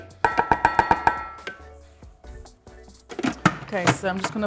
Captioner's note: upbeat music continues; bowl clanks